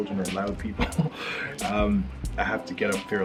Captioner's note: chuckles